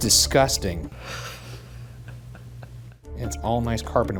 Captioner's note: Shane laughs